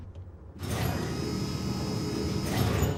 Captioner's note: machine sound